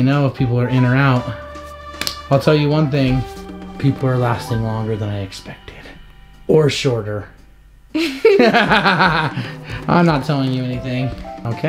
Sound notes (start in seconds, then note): 7.9 laughter